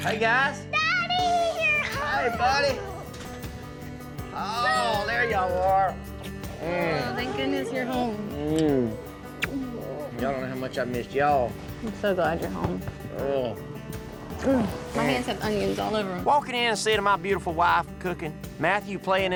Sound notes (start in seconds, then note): 13.5 smooch